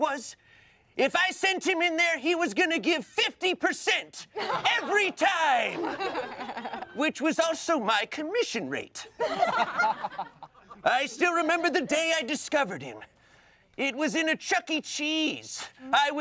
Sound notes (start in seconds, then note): 4.3 everyone laughs; 9.2 everyone laughs